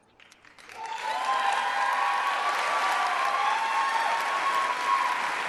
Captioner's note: cheers and applause